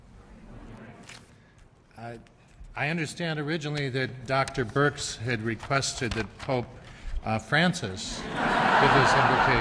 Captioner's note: laughter